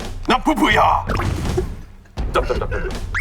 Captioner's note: the original writer can't stop laughing